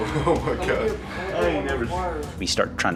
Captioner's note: indistinct chatter